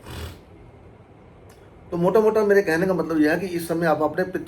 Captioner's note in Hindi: नाक से की जाने वाली आवाज़